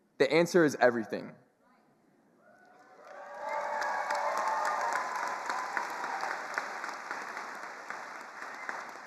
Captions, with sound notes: the answer is everything. (attendees cheering and applauding)